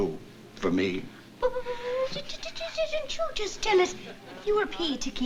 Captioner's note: stammering